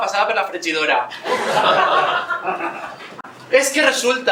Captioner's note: laughs